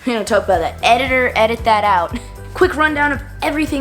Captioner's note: laughs